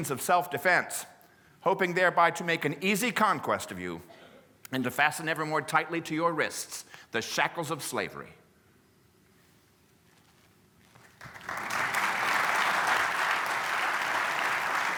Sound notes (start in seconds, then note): 11.0 applause